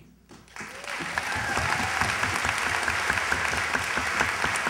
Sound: cheers, applause

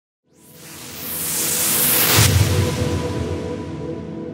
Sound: whooshing

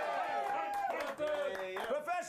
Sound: audience cheering

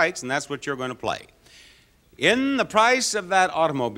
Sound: none

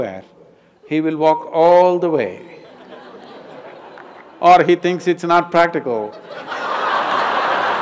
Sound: laughter/Applause

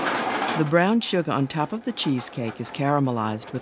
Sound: voiceover

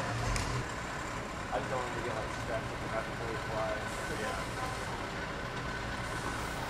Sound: plane engine

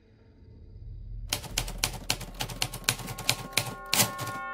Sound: typewriter keys clacking; gentle music

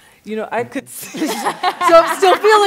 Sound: laughter

